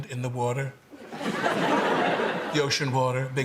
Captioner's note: laughter